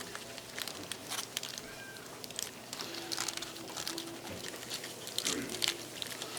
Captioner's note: tinfoil rustling; students murmuring